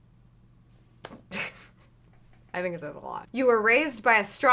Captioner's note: laughs